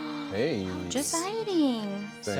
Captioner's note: gasps